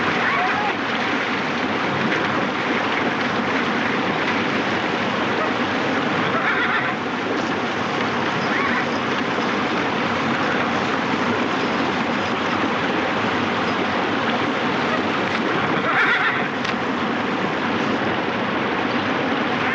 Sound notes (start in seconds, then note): 6.3 horse neighing